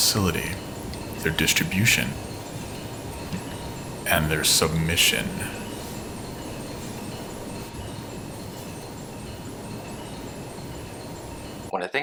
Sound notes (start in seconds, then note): 4.9 game audio; 4.9 intense music